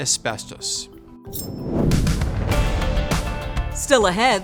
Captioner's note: dramatic music; air whooshes